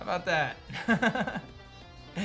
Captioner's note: laughs